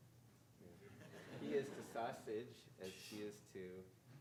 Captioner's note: audience laughing